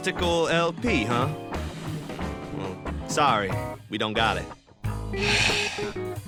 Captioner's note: sigh